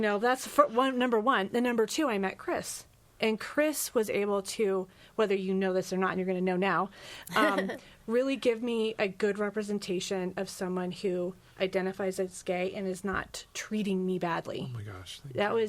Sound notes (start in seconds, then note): 7.2 laughs